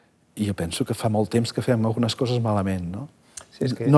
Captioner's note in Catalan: none